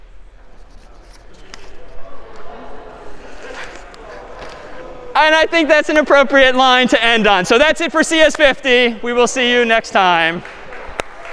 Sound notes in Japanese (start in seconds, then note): 2.9 騒ぎ声